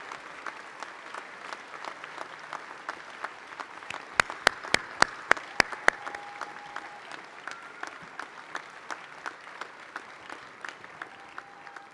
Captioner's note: shouting